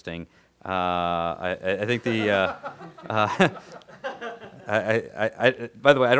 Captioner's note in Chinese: 笑声